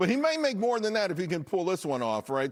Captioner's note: laughter